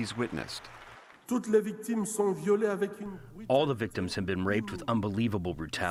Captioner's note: through translator